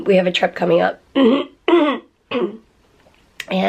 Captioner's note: clears throat